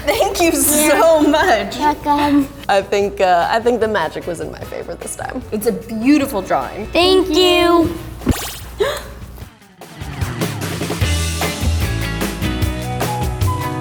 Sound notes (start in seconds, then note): 8.2 magical trill; 8.8 gasps; 9.8 energetic rock music